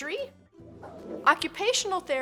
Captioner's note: transition whooshes